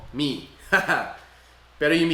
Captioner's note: laughs